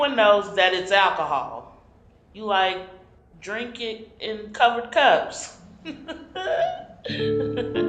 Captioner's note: laughing